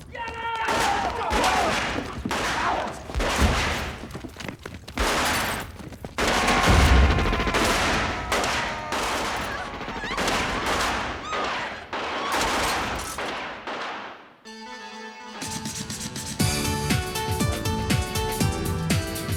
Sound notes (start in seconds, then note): 0.0 shouting; 0.6 gunshots; 7.4 shouting; 10.9 screaming